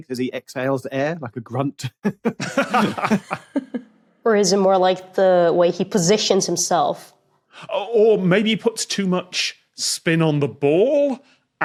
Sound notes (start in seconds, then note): 1.8 laughs; 1.8 chuckles